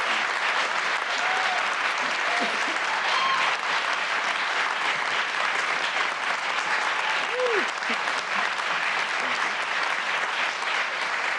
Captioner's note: applause